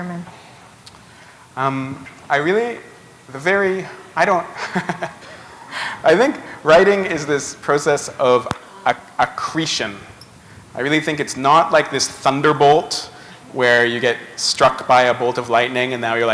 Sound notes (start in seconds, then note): 4.6 chuckle